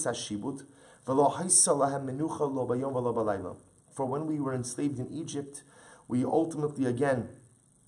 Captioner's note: Hebrew